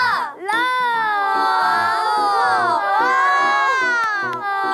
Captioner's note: automatic applause at the appearance of an acrostic poem master